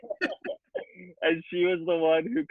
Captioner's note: laughs